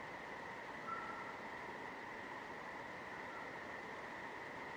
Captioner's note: creature whistles